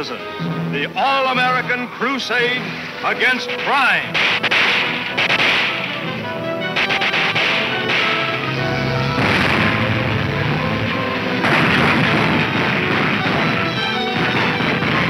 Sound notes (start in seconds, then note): 4.5 dramatic music; 5.8 guns firing